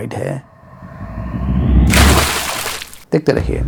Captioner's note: water splash sound